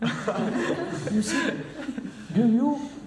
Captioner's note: laughter